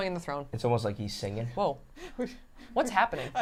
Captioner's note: laughing